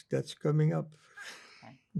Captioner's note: laughing